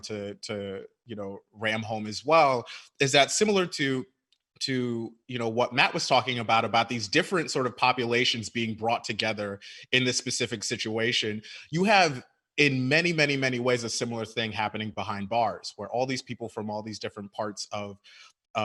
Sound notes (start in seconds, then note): none